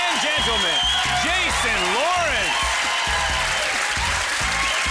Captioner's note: cheering